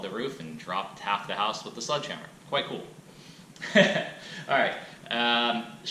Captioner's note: laughs